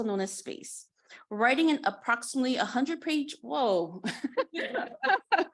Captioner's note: chuckling